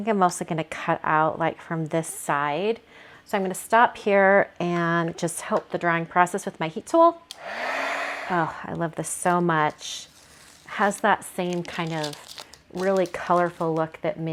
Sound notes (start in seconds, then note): 7.3 heat tool whirs